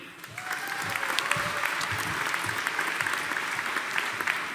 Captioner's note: audience applauding